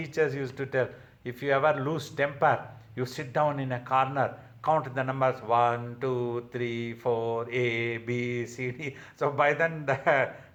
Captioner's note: chuckles